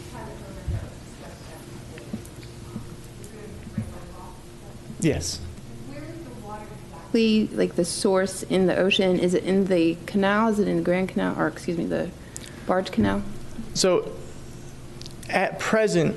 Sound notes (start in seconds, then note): 4.9 away from microphone